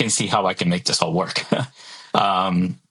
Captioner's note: laughs